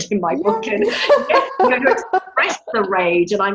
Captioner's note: women laugh